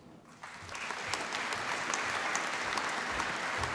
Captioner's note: applause